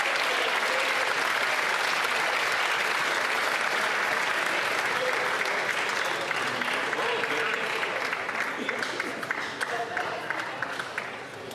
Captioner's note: applause